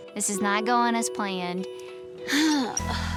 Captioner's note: sighs